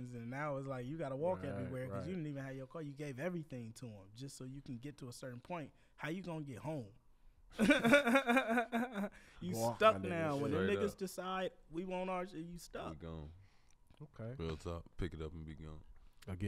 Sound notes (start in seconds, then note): 7.6 laughs